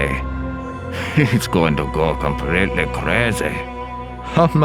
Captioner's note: chuckles